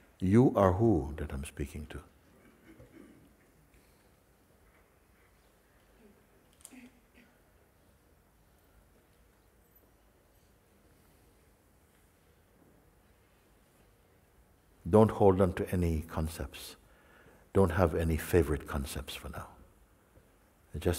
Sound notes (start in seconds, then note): 4.4 silence